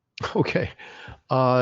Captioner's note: laughs